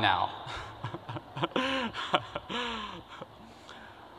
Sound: laughter

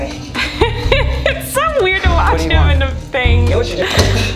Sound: laughs

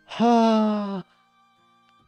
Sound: sigh

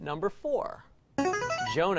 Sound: buzzer plays

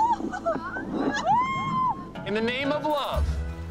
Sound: women exclaiming

